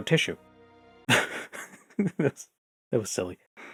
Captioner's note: giggling